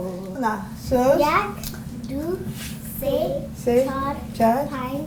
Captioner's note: child counting in Farsi